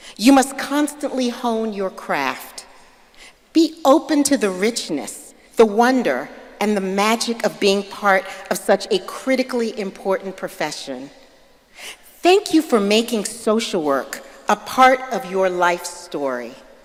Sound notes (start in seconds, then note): none